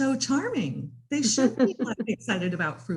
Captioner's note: laughs